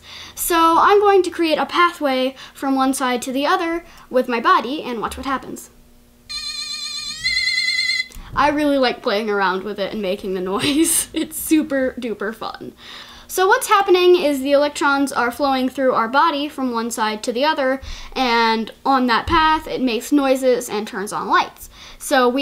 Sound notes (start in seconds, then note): 6.3 piercing noise